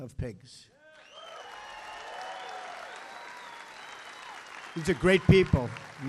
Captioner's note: applause